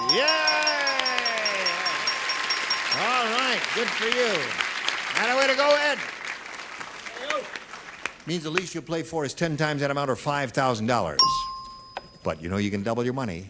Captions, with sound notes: HERE'S A LAST CHANCE FOR PRAIRIE DOG. LET US GO. [BELL DINGS] YEAH. [APPLAUSE] ALL RIGHT, GOOD FOR YOU. NOT A WAY TO GO IN. [APPLAUSE] MEANS THE LEAST YOU'LL PLAY FOR IS 10 TIMES